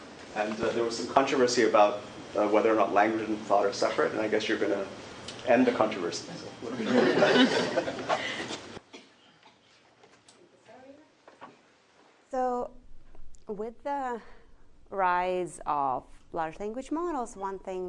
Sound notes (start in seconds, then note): 6.6 laughter